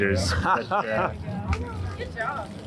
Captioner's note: laughs